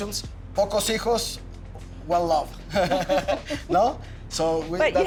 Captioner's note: speaks Spanish